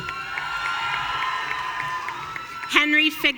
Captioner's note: audience cheering